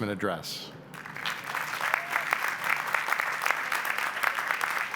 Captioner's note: applause